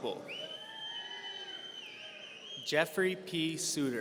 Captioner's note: audience cheering